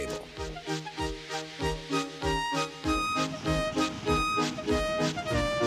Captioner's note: hissing, rattling